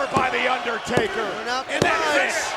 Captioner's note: bell rings